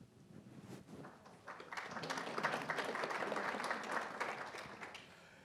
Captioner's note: attendees applauding